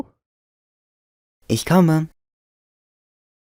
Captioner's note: calling; calling